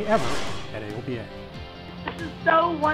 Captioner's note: whooshing